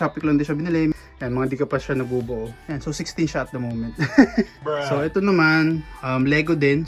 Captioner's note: laughs